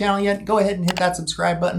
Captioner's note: mouse clicks